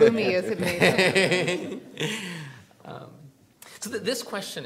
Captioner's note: all laughing